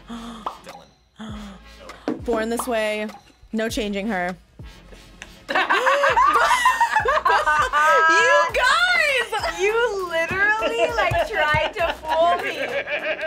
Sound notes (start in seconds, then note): 0.0 React gasps; 5.4 both laugh